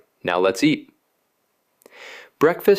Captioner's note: pause